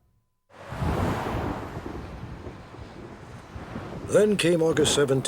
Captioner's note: thunder